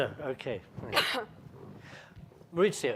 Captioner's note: coughing